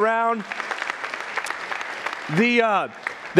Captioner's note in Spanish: aplausos de la congregación